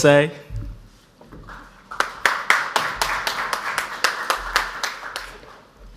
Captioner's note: audience applauds